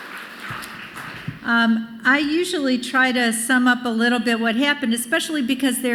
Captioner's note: applause